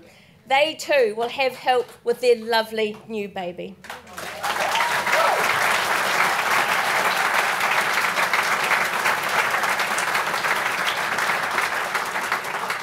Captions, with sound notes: They too will have help with their lovely new baby (clapping)